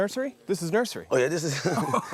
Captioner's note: laughs